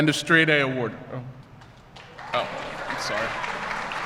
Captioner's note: applause